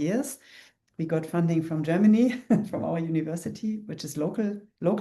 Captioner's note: chuckles